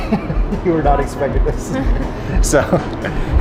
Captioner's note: laughs